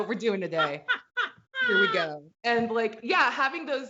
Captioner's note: laughs